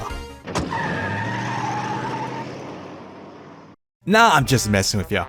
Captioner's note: car zooms off